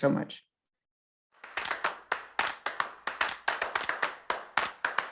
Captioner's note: crowd clapping